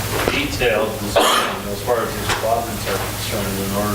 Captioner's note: coughing drowns out words